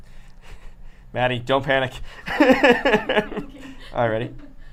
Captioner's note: laughs